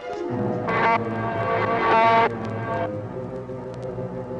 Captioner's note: buzzing